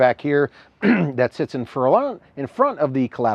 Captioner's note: clears throat